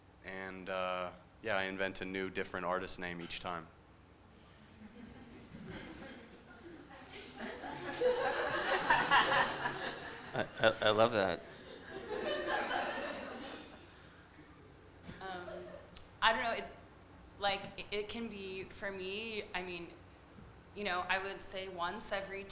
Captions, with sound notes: And, yeah, I invent a new, different artist name each time. (laughter) - I love that. (laughter) - It can be for me, I would say once every two weeks,